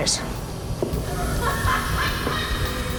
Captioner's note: cackling